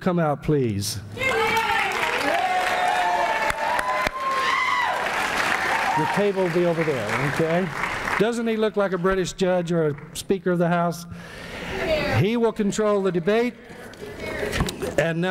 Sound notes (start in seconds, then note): 1.2 people shouting here here and applauding